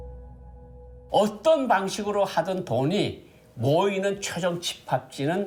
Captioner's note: speaking Korean